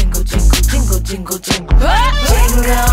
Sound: yell

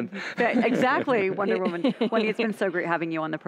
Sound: all chuckling

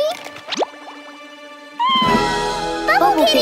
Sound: meowing

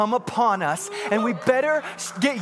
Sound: congregants cheering

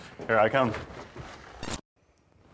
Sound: camera cut sound

